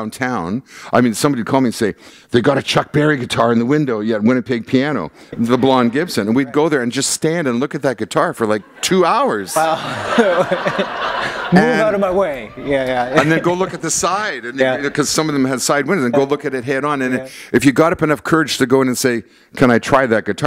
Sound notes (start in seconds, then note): 8.5 laughter